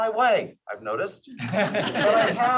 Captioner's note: laughter